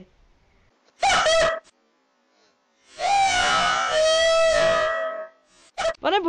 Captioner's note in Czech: výštěk